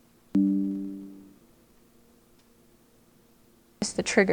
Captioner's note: computer chimes